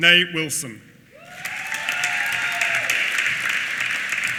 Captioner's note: applause